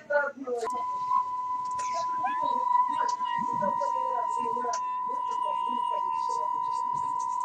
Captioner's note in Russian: пиканье ТВ и меня